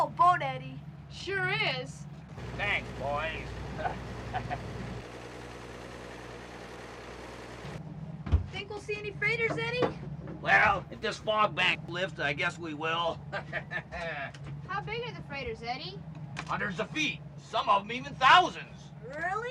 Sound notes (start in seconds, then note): 13.2 laughing